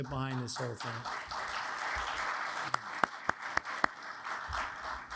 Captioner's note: audience applauds